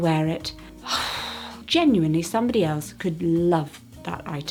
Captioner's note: sighs